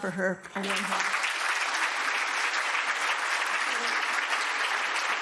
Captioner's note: audience applauding